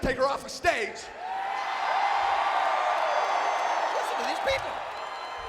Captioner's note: audience cheering